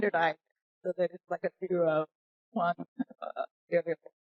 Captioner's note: audio distorts